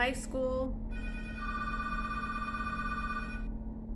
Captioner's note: phones start ringing simultaneously